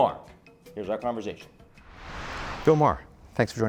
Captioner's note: air whooshing